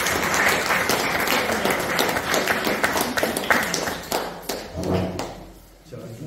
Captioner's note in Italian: Applauso